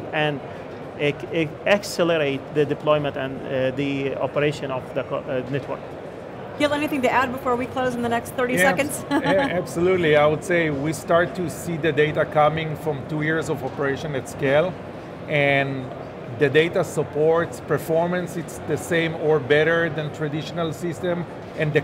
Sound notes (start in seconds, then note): 8.6 laughs